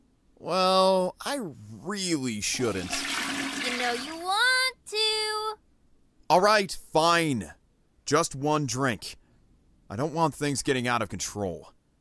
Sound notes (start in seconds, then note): 2.5 toilet flush sound effect